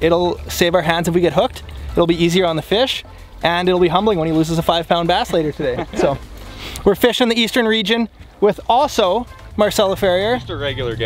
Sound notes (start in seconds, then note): 5.3 laughs